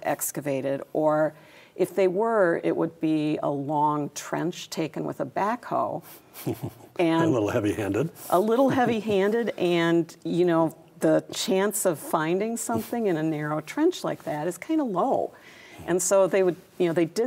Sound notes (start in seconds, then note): 6.3 chuckles